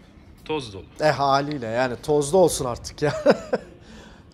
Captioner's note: laughing